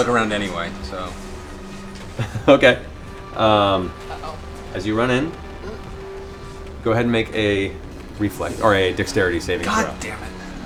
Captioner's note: laughs